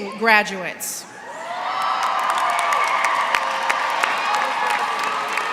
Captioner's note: applause